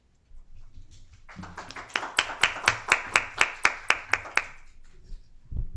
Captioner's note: applause